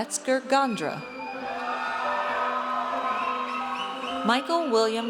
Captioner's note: audience cheers